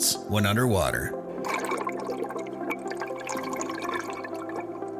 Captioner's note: water gurgling